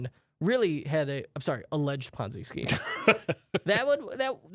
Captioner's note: laughs